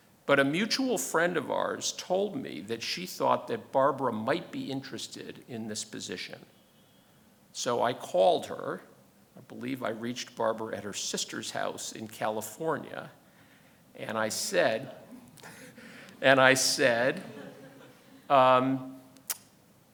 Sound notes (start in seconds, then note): 15.1 chuckles